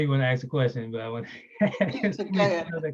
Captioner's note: laughing